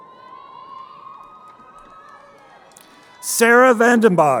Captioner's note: crowd cheering